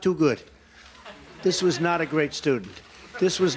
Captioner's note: laughter